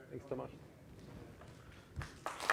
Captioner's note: applause